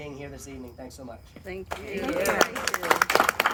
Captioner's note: applause